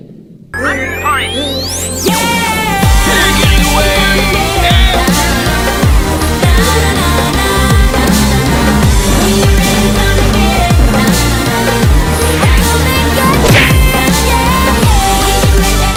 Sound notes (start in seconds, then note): 11.3 Underdog brakes hard